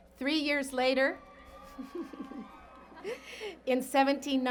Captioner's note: cheers and Applause